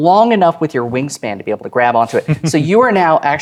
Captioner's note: chuckling